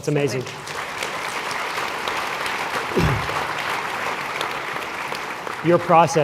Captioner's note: applause